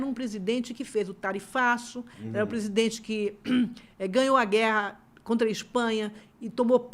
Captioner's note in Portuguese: limpando a garganta